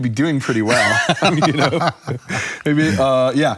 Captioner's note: laughs